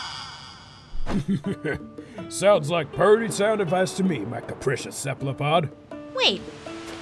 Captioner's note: chuckles